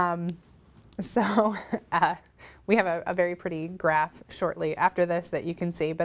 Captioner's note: laughs